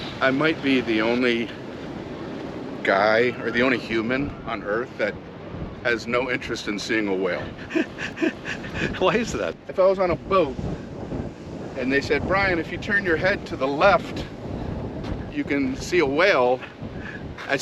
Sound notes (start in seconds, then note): 7.3 laughs